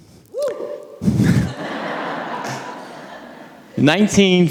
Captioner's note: audience laughing